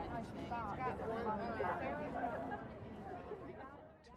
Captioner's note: people chattering